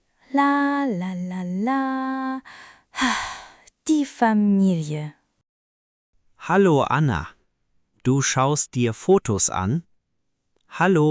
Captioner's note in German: seufzt